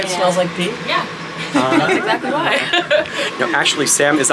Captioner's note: laughs